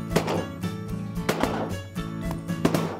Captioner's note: gun shot; gun shots